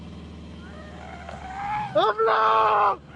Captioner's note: creature screaming; man screaming in foreign language